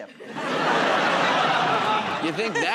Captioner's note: laughter